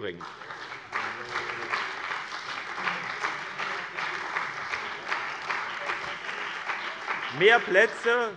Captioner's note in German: Beifall bei dem BÜNDNIS 90/DIE GRÜNEN und der CDU